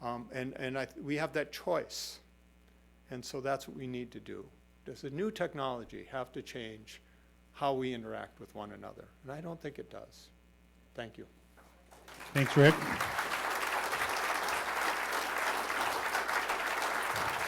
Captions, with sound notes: And we have that choice. And so that's what we need to do. Does the new technology have to change how we interact with one another? And I don't think it does. Thank you. [applause]